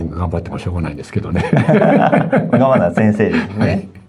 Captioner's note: laughs